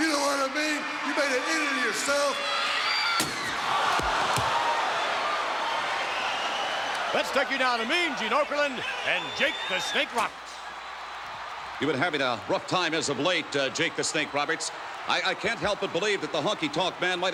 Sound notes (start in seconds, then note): 3.2 crowd gasps; 3.2 guitar smashes; 5.2 crowd cheers and whistles